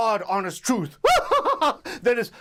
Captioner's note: laughs